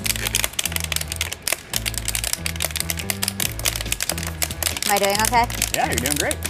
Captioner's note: popping noise